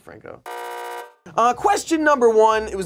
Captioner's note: buzzer buzzes